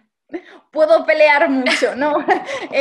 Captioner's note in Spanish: risas